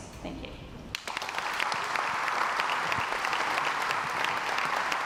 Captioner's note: crowd applauds